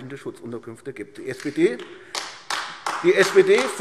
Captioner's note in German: Beifall AfD